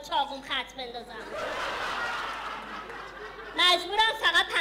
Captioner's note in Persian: خنده